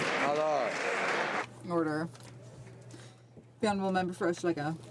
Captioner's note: some Applause